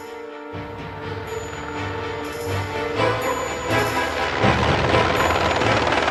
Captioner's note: suspenseful music continues; helicopter blades whirring